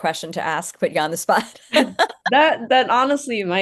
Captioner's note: laughing